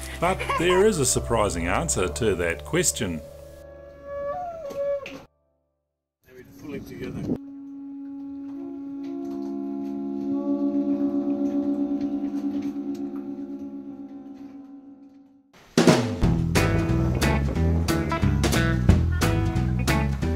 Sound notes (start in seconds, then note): 3.6 conch sounds; 9.0 chorus of conch blowers departing